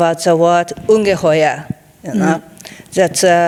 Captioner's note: speaking in foreign language